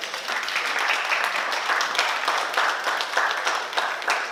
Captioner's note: oklaski